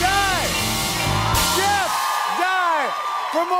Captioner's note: cheers and applause